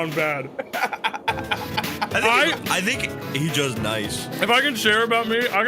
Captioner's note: laughs